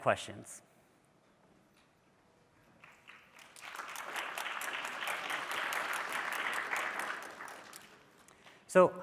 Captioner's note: applause